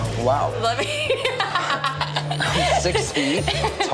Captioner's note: laughing